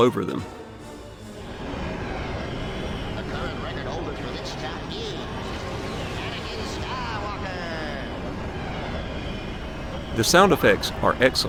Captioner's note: game music; game sounds